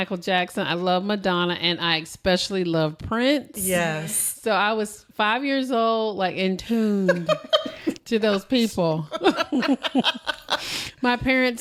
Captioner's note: laughter